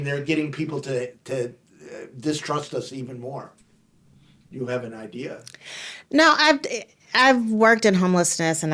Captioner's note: none